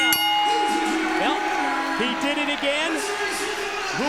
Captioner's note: bell ringing